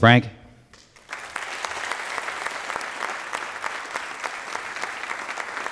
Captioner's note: applause